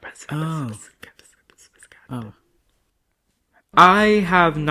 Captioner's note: whispering